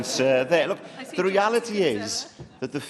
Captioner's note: laughter